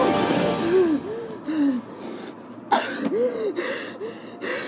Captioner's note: panting